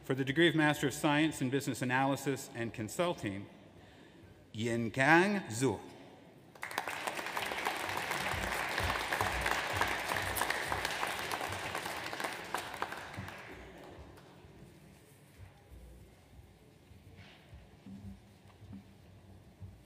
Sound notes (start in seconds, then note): 6.5 audience applauds